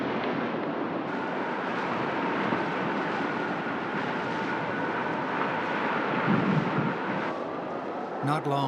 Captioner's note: wind howling